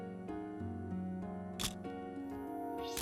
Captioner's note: camera shutter click